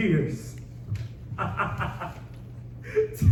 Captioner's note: laughing